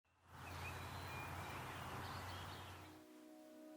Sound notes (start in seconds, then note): 0.3 birds chirping happily; 3.0 mellow ambient music